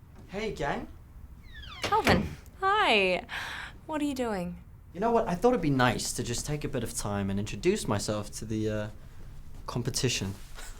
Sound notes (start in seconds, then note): 1.5 door thuds